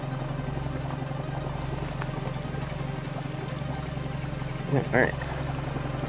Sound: light techno music; water bubbling

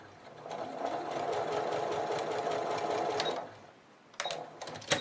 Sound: sewing machine stitching

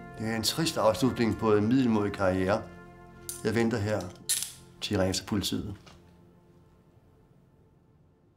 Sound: none

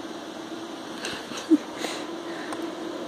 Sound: laughing

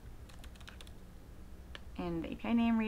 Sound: typing on keyboard

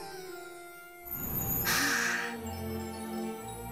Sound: sighing

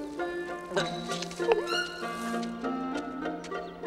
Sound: Meeko gulps

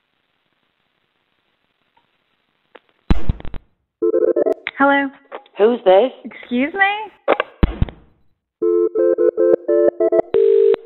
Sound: phone rings

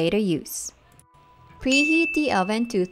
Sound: ding

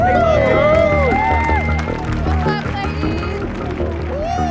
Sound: cheering and applauding

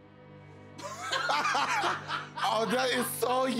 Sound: laughter

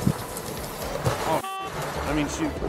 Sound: beep

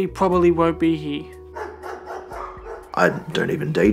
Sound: dog bark in distance

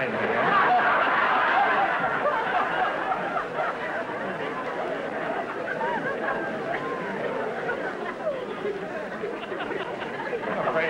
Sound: audience laughter

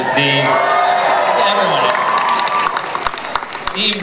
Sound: cheering, applause

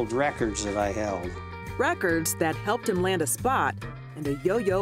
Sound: voiceover

